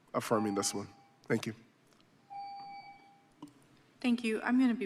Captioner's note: beep